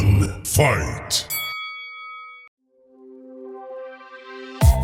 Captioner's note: bell dings